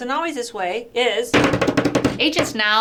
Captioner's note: drum roll with hands